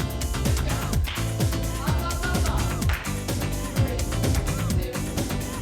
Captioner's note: hands clapping